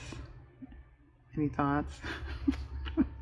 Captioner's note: laughs